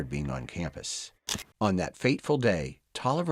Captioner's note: camera clicks